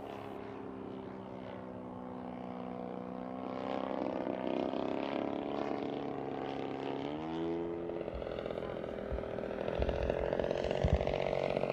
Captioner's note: engine propeller sounds